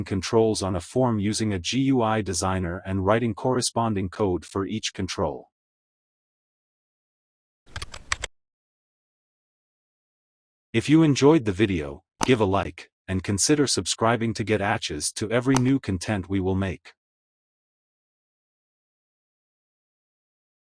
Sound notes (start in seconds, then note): 7.7 typing